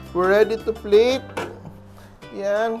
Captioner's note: bang